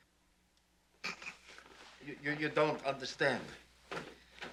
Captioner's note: scoffs